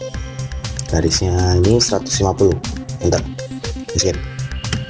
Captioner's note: click